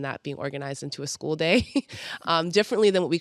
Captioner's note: chuckles